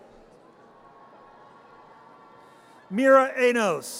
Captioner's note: audience cheers